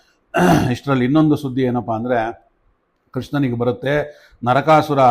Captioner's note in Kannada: ಗಂಟಲು ಸರಿಮಾಡಿಕೊಳ್ಳುವಿಕೆ